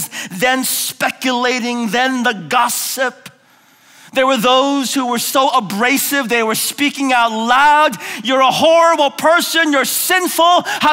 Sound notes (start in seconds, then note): none